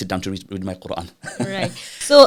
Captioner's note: laughing